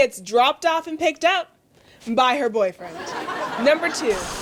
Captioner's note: laughter